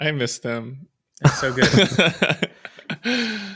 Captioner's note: charles laughs